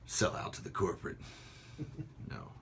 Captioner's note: laughter